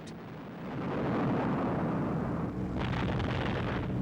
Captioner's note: explosions